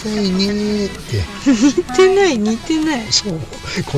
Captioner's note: laughs